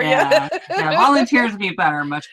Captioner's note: laughs